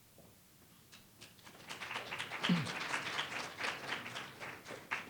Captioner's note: audience applauds